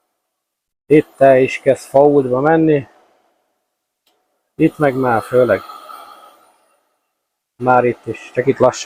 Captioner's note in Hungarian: sóhajtás